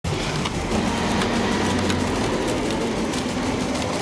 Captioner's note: T-Rex roars